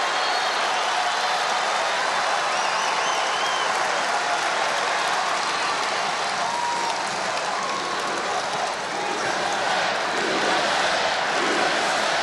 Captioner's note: applause